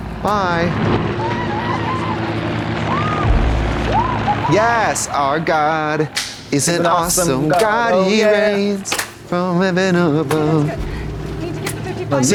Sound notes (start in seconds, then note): 1.5 Yellowjackets cheering